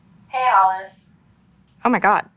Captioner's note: on the phone